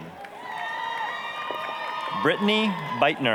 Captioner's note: applause, cheering